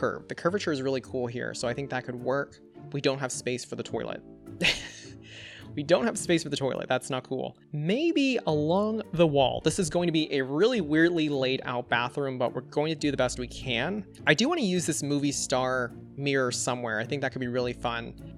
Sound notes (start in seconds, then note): 4.6 laughs